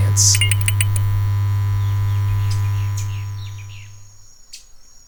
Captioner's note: electricity buzzing